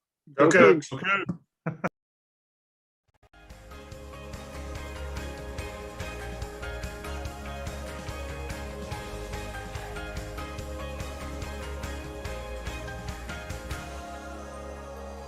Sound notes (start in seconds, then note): 1.6 laughs; 3.4 upbeat music